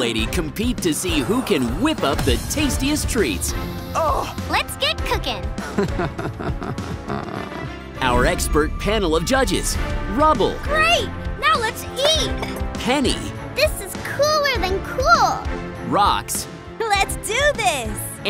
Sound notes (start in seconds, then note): 5.6 laughing